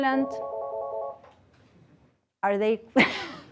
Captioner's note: phone rings